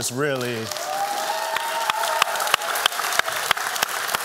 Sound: applause

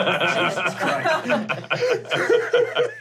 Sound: laughing

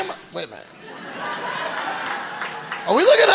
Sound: audience laughing

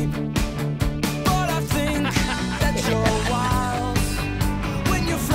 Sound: laughs

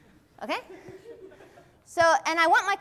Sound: class chuckles

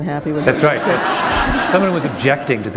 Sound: laughter

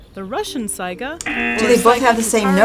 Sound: buzzer rings

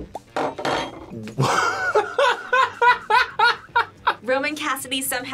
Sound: laughs

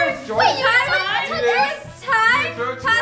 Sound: family arguing

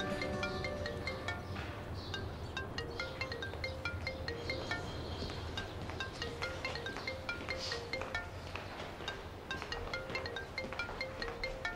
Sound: mobile ringing

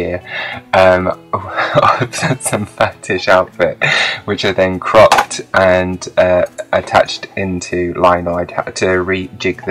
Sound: laughs

